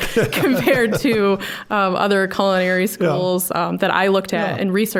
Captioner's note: both laughing